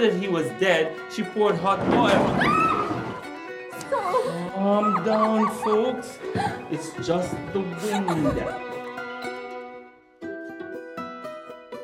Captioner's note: scream